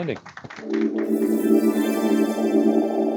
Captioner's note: applause